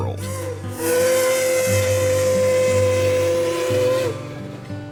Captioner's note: steam Whistle